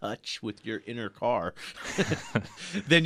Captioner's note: both laugh